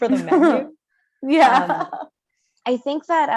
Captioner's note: laughs